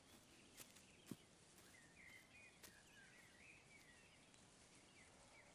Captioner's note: birds singing